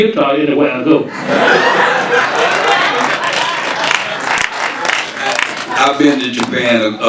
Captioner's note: audience laughing and applauding